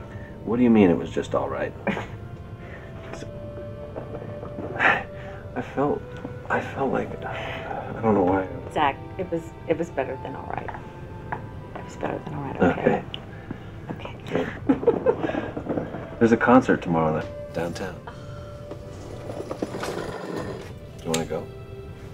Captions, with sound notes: What do you mean it was just alright? I felt, I felt like, I don't know I-- - Zach, it was better than alright. It was better than alright. - Okay. - Okay. (laughing) - There's a concert tomorrow night, downtown. You wanna go?